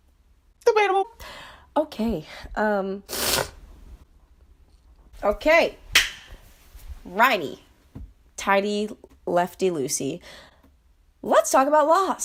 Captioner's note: booger suction